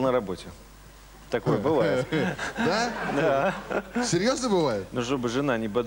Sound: laughter

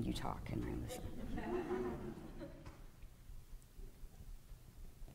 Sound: audience laughing

